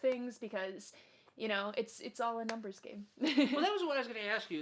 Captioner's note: laughs